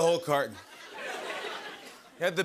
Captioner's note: laughter